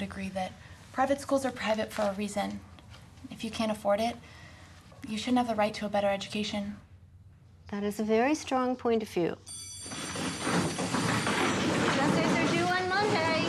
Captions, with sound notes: that private schools are private for a reason. If you can't afford it, you shouldn't have a right to a better education. That is a very strong point of view. [school bell rings] Essays are due on Monday.